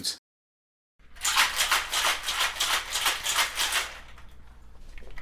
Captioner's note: cocktail shaker shaking